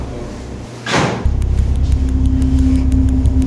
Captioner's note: door closes; intense music